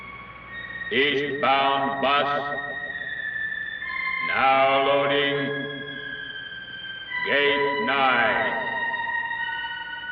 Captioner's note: voice over pa system